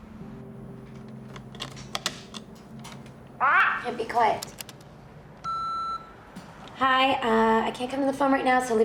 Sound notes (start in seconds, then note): 3.4 kitty squawks; 5.4 answering machine beeps